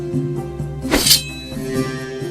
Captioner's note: dagger unsheathing